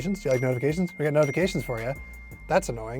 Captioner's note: ding